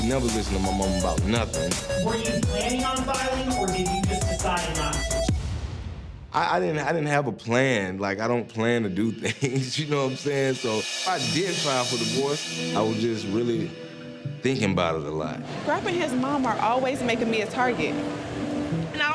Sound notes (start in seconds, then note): 5.2 dramatic thump; 9.1 laughs; 11.7 tense downbeat music